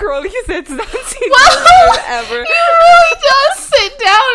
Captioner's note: laughing